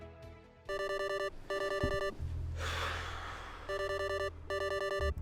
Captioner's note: ringing